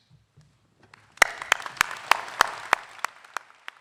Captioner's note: applause